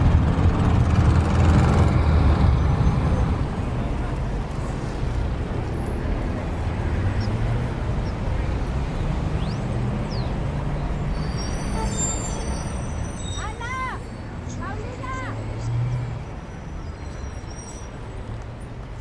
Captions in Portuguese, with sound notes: [sons da rua] Ana! Paulina!